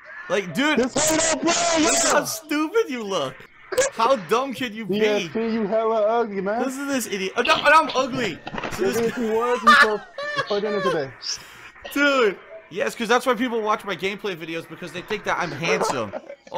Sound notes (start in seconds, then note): 8.6 fake laughter